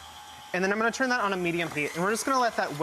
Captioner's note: none